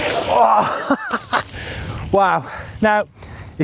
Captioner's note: chuckles